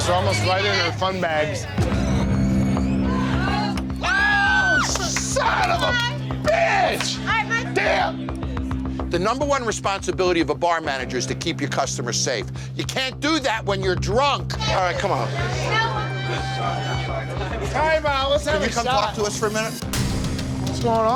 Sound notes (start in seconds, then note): 2.0 door creaking; 4.5 customer yelling loudly; 16.3 dramatic music